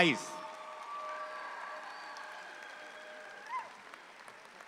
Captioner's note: audience applauding